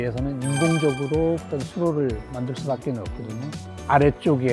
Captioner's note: sparkling sound effect